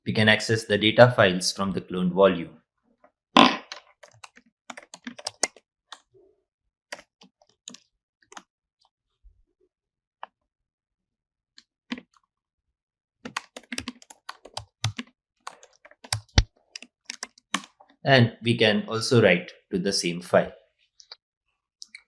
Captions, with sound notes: we can access the data files from the cloned volume. (keystrokes clicking) (keystrokes clicking continues) And we can also write to the same file.